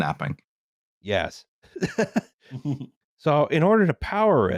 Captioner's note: laughs